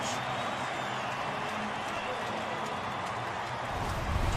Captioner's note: cheering